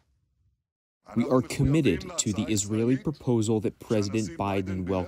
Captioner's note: through translator